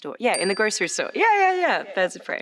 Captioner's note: bell dings